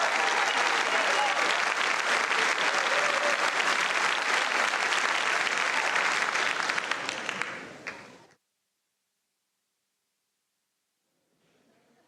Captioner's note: cheering